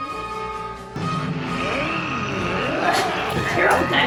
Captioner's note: lizardy growl